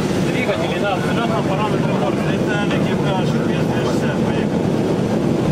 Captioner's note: speaking in foreign language